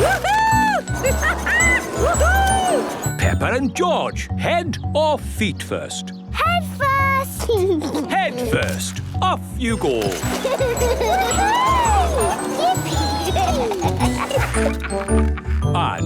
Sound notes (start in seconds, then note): 0.0 laughing; 7.6 giggles; 9.9 giggling; 14.0 laughing